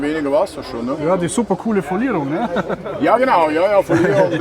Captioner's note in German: lacht